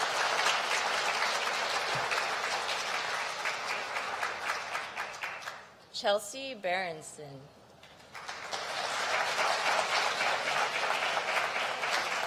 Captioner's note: applause